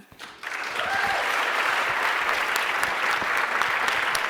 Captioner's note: applauding